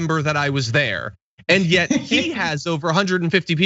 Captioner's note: laugh